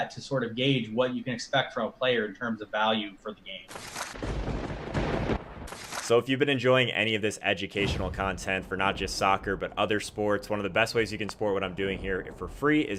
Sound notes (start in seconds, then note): 3.8 lighting striking